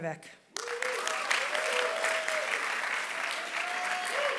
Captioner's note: applause